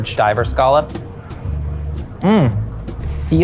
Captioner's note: people chattering